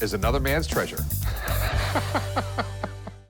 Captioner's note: laughs